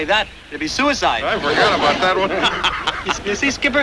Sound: laughs

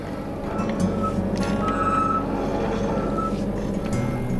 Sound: metal grating

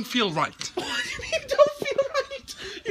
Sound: laughing

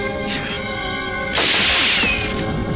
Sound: gun Firing

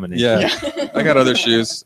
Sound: all laugh

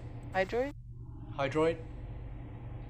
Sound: male Voice

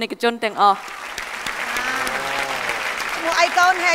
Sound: applause

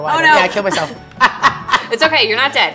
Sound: laughter

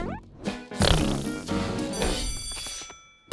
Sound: farting; bell ringing

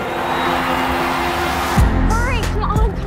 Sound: cheers and applause

